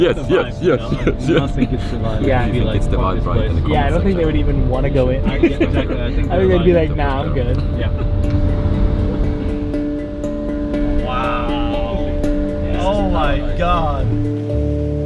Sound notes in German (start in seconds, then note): 0.0 lacht amüsiert